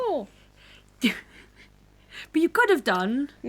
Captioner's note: laughs